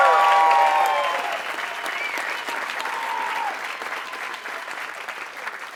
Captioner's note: applause